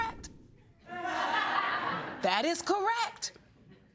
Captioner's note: audience laughing